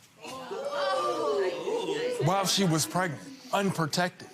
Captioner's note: gallery shouts